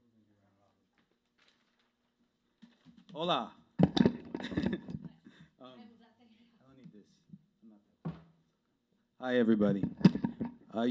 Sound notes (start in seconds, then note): 4.2 chuckles